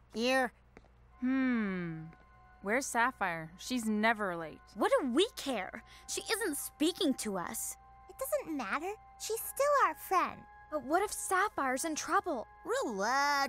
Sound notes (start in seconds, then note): none